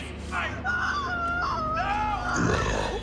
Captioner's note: Holly screaming; mummy growling